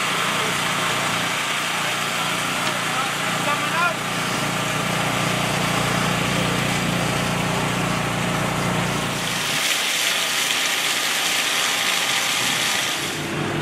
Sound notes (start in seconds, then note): 9.5 water rushing